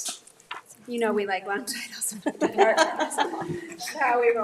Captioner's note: group laughs